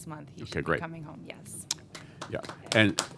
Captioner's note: applause